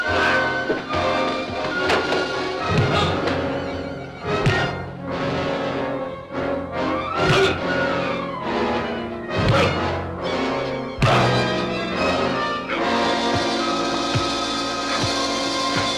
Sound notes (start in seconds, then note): 2.8 Faust grunting; 4.2 punches thudding; 11.3 dramatic music